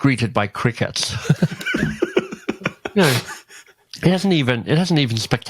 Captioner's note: laughs